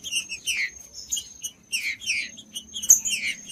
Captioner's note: trinca ferro cantando